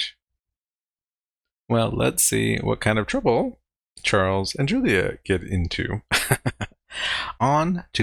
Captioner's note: laughing